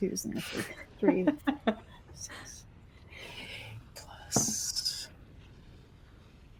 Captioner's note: laughs